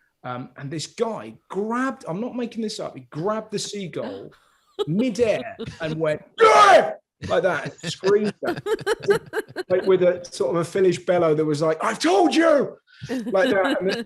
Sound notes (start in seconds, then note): 6.3 yells loudly